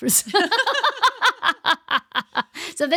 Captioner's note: laughing